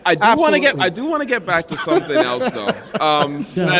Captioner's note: laughter